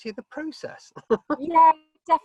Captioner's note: chuckles